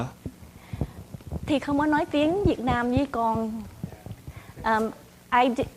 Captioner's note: speaking in foreign language